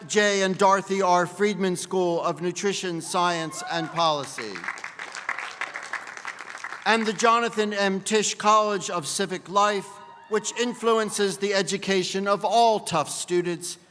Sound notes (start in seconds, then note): 3.5 applause